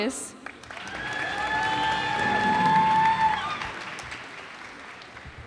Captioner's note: cheers and applause